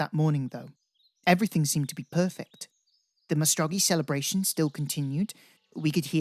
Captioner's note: birdsong